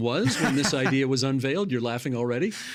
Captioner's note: laughing